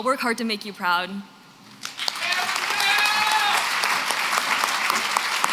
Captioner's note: applause